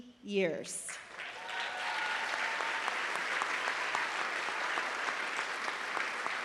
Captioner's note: applause